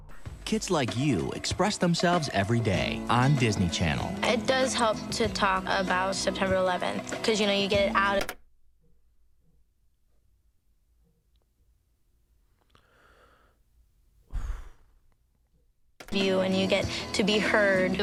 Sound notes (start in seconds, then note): 8.0 computer keyboard taps; 14.2 sighs